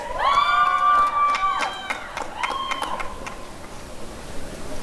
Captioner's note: applause and cheering